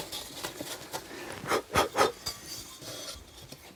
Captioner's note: he blows